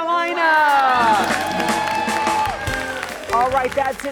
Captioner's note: audience applauding